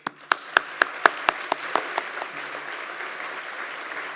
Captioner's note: audience applauds